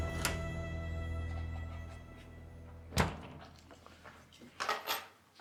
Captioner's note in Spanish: sonido al abrir la puerta